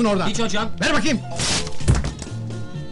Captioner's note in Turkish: yirtilma sesi̇